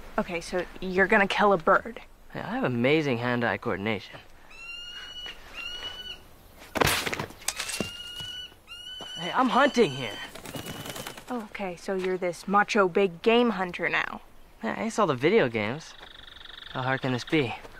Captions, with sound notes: - Okay, so you're gonna kill a bird. - Hey, I have amazing hand eye coordination. (bird chirping) Hey I'm hunting here. - Okay. So you're this macho big game hunter now. - I saw the video games. How hard can this be?